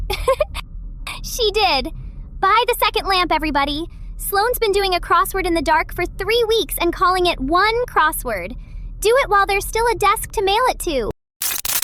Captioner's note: laughs